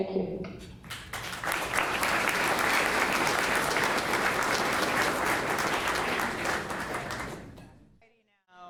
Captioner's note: clapping